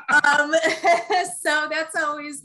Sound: laugh

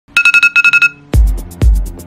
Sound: alarm

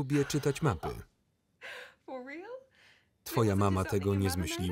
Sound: laughs loudly

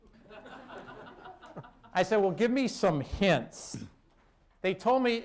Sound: laughter

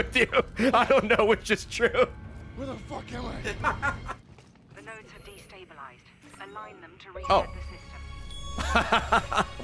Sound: laughs; laughs

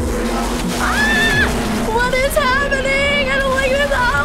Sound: screams

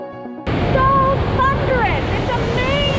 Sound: water roaring

